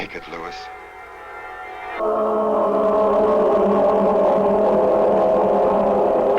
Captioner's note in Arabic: هدير محرك الصاروخ